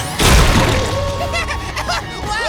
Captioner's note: laughing